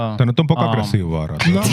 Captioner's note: speaking Foreign Language